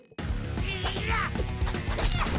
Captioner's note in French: grognement